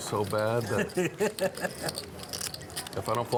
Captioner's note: laughs